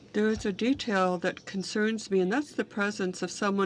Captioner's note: speaking French